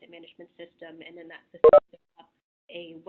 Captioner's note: beeping